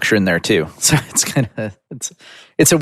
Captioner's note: laughs